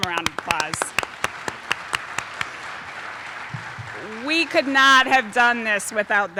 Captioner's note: applause